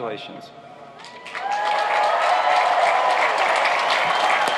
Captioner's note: applauding